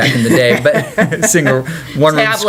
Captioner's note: laughter